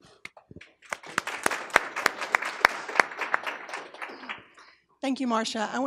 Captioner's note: applause